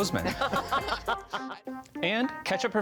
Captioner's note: laughs